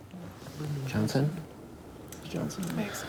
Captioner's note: whispers